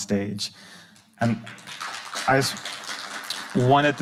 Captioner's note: audience applauding